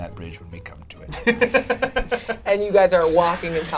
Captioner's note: laughs